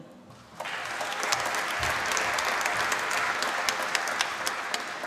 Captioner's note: applause